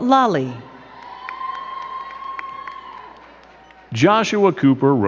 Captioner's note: crowd cheering and clapping